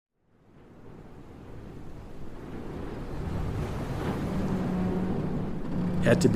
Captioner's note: strong winds, ocean waves, ship metal creaking